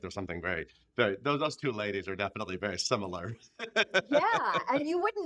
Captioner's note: laughing